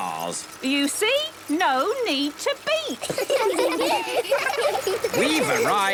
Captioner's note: laughter